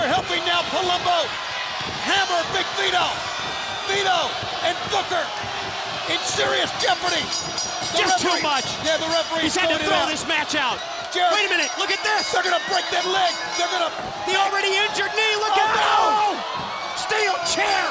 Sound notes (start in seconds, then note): 7.9 bell ringing